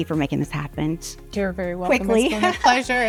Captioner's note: laughs